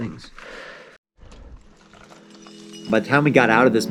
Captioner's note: heavy breathing; metal clinking